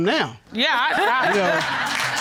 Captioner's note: stammers